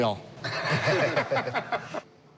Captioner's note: laughter